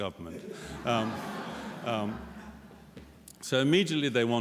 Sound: laughter

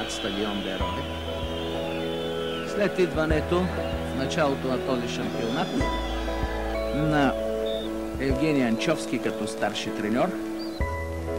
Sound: recordings playing

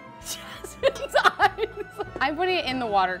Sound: laughs

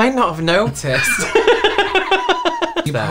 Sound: engine Turning Over Laughter

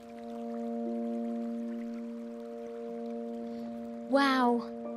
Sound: water bubbling; soft, dramatic music plays

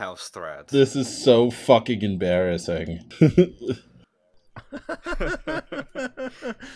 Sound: laughter

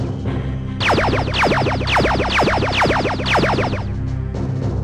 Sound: lasers firing

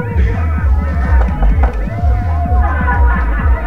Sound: knocking

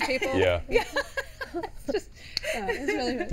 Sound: laughs

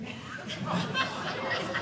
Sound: audience laughing

